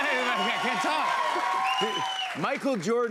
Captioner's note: cheers and applause